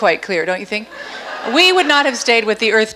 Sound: audience laughs

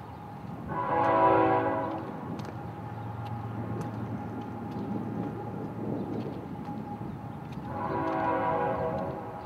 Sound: A train whistle blows in the distance

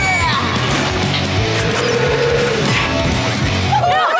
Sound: grunting; mooing; cheering

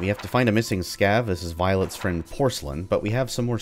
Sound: journal closes; journal opens

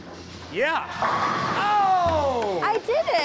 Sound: pins clatter

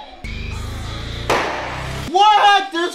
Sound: chopping sound

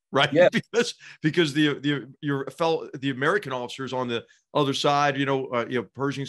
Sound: laugh

